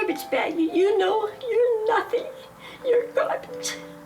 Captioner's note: crying